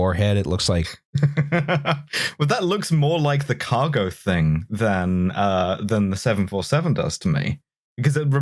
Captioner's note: laughs